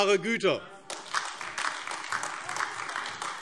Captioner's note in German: Beifall AfD